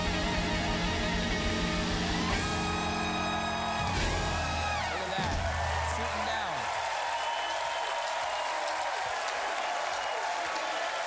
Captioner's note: cheers and applause